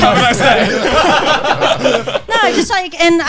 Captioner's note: all laughing